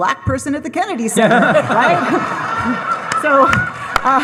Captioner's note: audience laughing; audience applauding